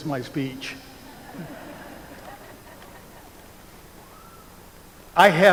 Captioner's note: laughter